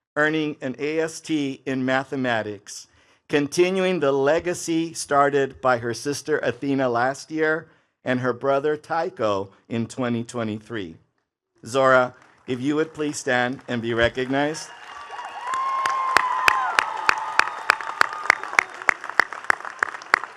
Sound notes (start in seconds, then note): 15.3 attendees cheering and clapping